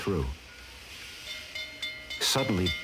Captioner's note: train bell clanging